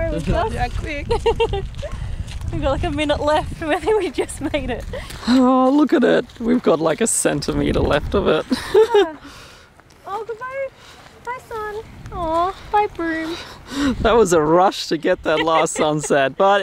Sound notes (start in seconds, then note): 1.0 woman giggles; 8.2 laughs